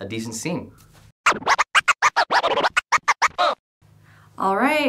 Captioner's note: record scratching